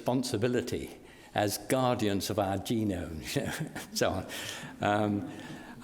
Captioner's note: laughs; audience laughs